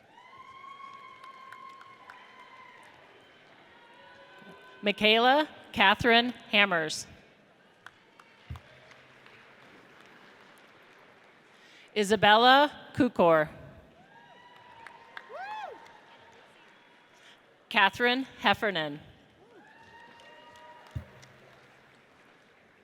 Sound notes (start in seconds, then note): 0.3 audience cheers; 7.8 audience applauds; 14.1 audience cheers; 19.8 audience cheers